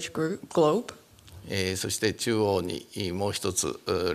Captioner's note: speaking japanese